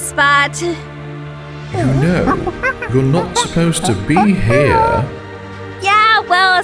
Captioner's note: ape noises